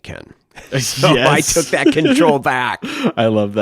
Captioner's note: laughs